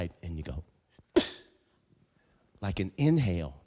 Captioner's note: metal rattling